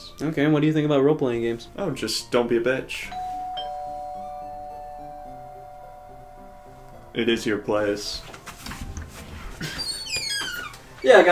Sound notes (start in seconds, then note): 3.0 doorbell rings; 9.6 door squeaks